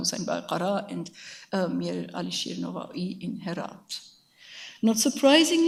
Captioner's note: speaks in a foreign language